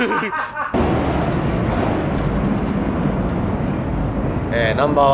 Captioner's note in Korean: #기차소리